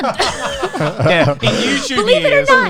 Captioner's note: laughs